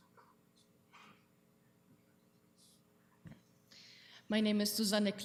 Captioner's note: whispering